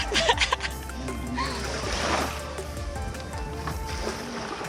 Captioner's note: female laughing